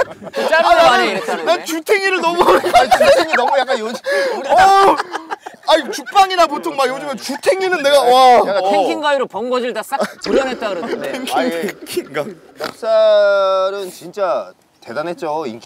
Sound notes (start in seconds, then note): 4.3 laughing